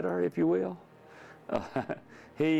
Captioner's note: chuckles